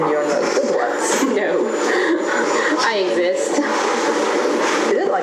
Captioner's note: laugh